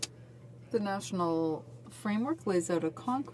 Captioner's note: speaking French